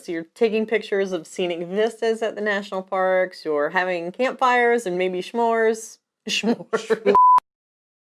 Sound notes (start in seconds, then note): 6.4 laughs